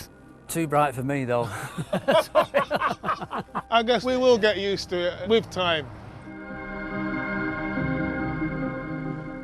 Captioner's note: laughs